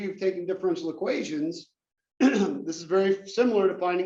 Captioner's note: cough